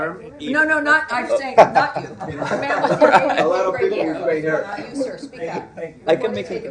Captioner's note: laughter